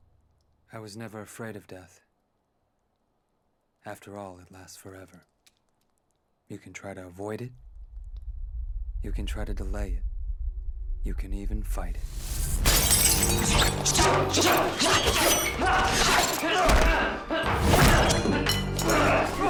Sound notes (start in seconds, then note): 12.2 glass crashing; 12.6 sword clanging; 13.2 dramatic music; 13.3 man shouting; 15.4 men grunting